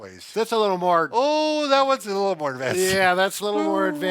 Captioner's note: Trainer exclaiming